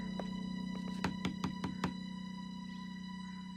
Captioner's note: knocking